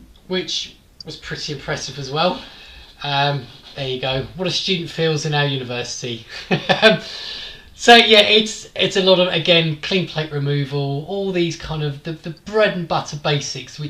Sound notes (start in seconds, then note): 6.3 laughs